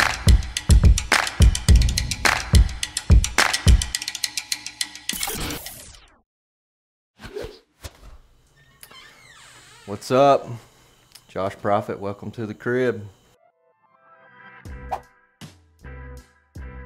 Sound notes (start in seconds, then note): 0.0 upbeat Music continues; 8.5 door opens; 13.4 soft music